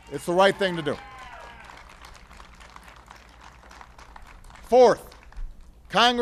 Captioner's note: applause